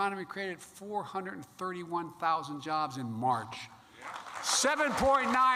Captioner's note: applause